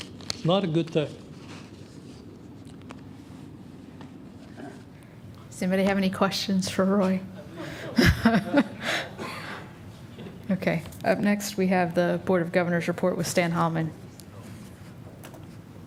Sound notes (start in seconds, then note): 7.3 laughter